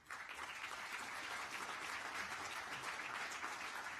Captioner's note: applause